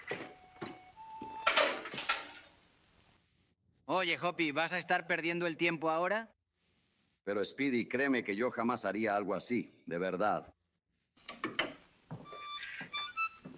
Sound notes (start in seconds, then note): 1.2 door opens; 3.6 whispering; 12.3 plays cheerful music